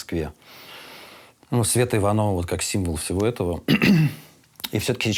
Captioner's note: clears throat